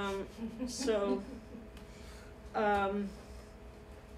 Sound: chuckling

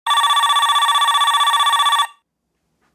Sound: phone ringing

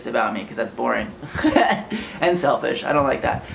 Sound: laughs

